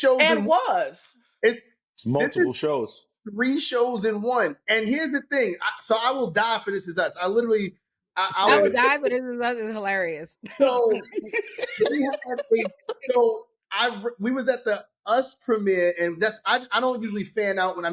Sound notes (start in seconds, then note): 10.5 laughter